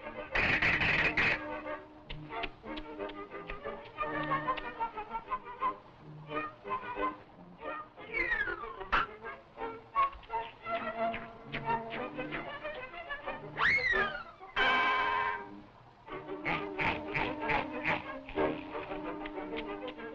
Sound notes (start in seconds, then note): 16.3 chuckling; 18.7 chewing